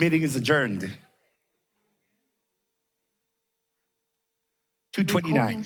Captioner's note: background chatter